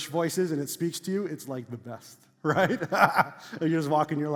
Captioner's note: laughs